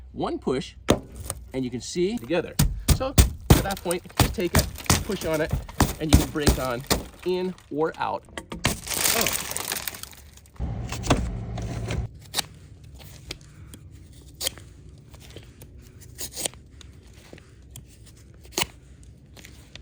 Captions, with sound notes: One push, and you can see together. (hand hitting window) So at that point, just take it, push on it, and you can break on in or out. (glass shattering) (seat belt ripping) (seat belt ripping) (seatbelt ripping)